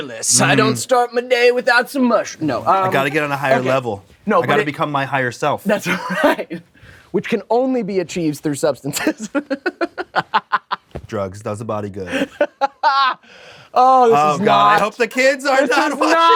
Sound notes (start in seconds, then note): 9.0 giggles; 12.1 Devon laughs